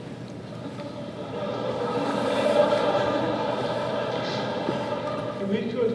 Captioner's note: laughter